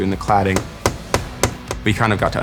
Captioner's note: hammer tapping